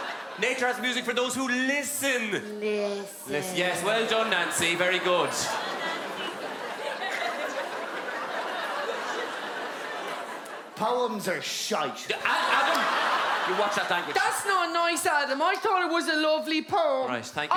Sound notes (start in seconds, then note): 4.1 laughte